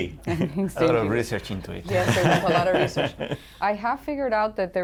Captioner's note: laughter